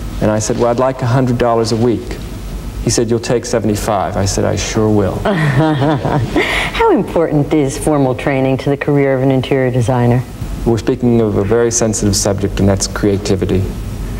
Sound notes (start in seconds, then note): 5.2 laughing